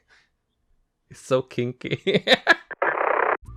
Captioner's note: Kiki laughs